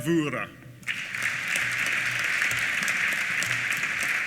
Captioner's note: applause